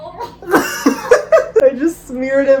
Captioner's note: both laughs